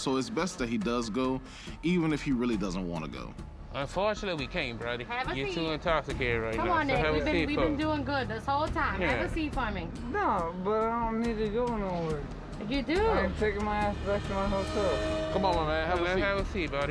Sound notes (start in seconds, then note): none